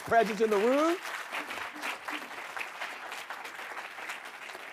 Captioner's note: audience clapping